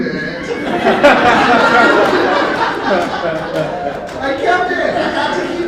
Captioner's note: laughter